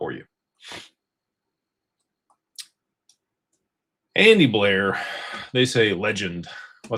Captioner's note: snorts